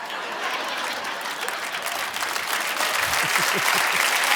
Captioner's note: audience applauding; audience laughing; chuckles